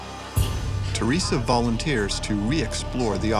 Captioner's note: voiceover